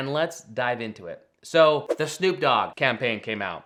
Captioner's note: screen whooshing